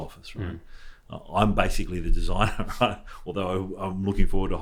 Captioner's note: laughs